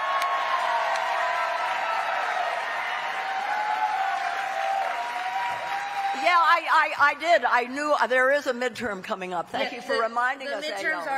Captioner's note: cheering